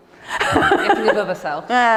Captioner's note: Ruth laughing